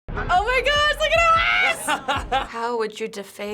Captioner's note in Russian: Смеётся